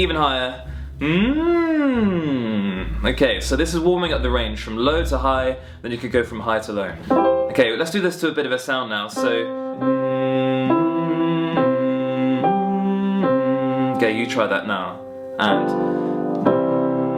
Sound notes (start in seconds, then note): 9.8 humming